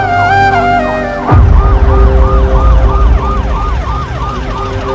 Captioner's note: ambulance siren wails